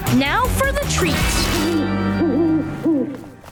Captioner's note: hooting